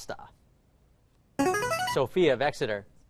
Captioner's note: chiming